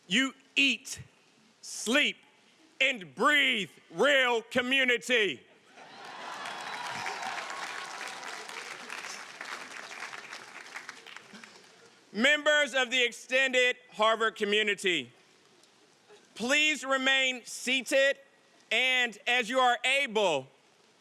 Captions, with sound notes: you eat, sleep, and breathe real community! (audience applauding and cheering) Members of the extended Harvard community, please remain seated, and as you are able,